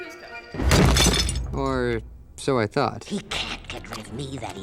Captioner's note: smashes